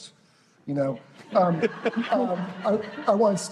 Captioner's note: laughter